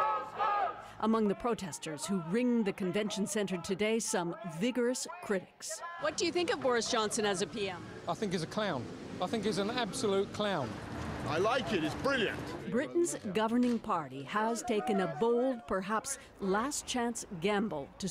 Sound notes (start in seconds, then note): 1.2 chanting